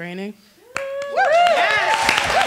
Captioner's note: attendees applauding